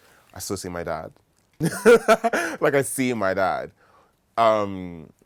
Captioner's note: laughs